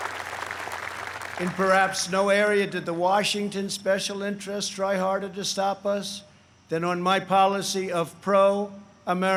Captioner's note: applause